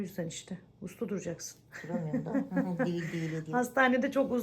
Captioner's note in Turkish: kahkaha